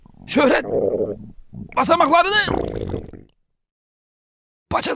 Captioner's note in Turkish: mide gurultusu sesi